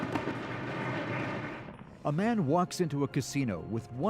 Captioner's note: applause